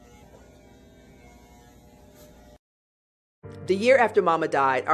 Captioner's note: clippers buzzing